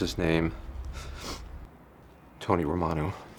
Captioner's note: sniffles